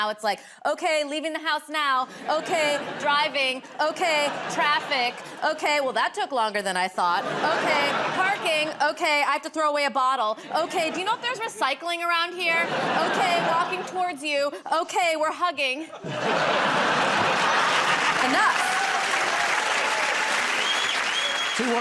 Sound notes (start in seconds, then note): 15.8 laughter; 19.6 cheers and applause